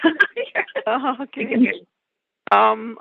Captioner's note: chuckle